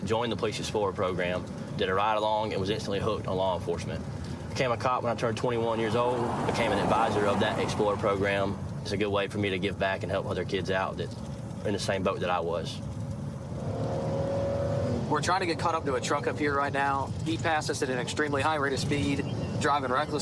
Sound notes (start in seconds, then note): 5.0 vehicle accelerates